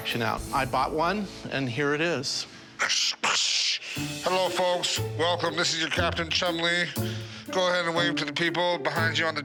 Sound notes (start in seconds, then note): 2.5 mimics radio static